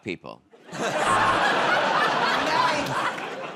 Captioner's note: laughter